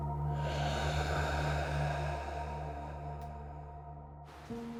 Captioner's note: ominous music continues; Danny sighs